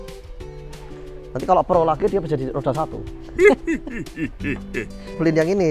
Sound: chuckles

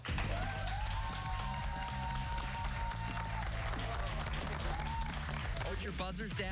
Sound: cheers and applause

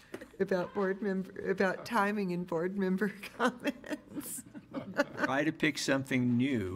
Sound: laughs

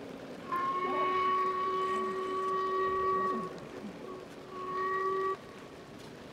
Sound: train whistle

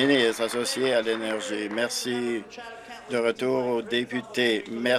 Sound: applause

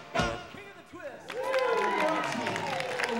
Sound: audience applauding

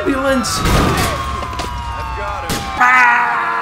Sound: ambulance Siren asserts dominance; yelling

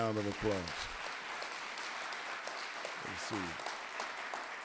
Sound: audience applauding

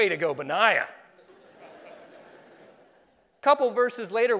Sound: laughing

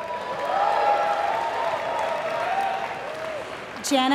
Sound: applause

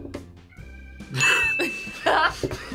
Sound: bell rings; laughs; React laughs

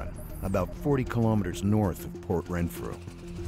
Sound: voiceover

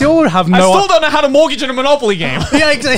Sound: all laugh

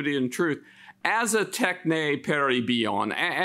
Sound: speaks in Greek

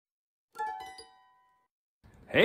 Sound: chime

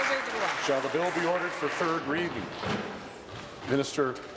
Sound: applause

